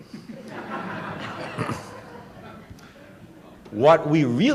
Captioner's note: laughter